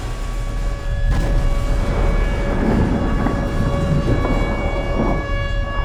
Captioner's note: rumbling and explosions